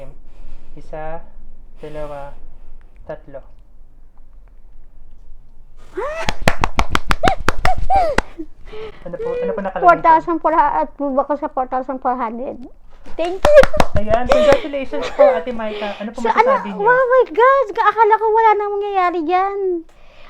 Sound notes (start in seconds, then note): 5.9 exclaims, claps